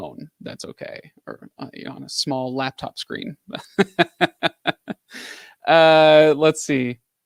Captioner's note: laughs